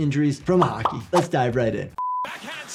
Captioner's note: beep